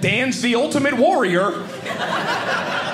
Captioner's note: audience laughing